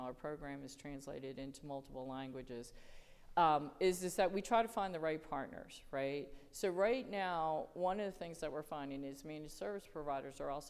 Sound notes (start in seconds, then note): none